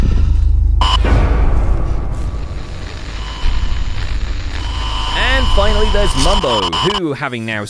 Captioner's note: audio distorts